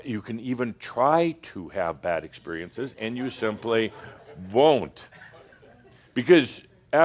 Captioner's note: some laughter